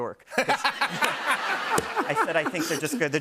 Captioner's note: laughter